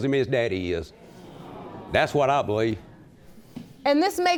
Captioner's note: audience exclaims